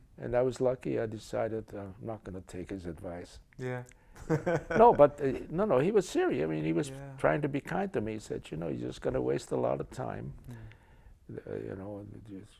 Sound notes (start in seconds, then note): 4.2 laughs